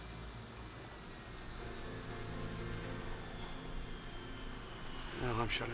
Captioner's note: whining,</i> <i> Falling In Pitch